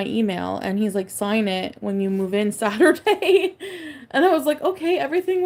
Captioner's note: laughs